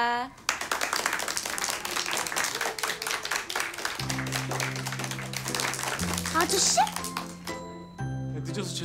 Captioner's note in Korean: 박수 소리